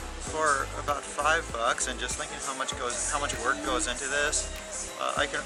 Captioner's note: none